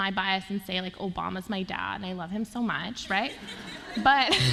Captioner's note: laughter